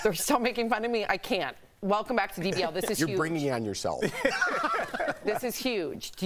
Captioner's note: laughter